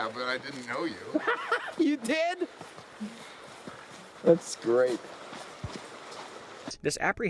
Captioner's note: laughs